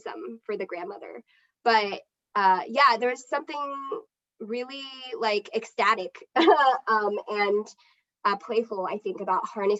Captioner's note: laughs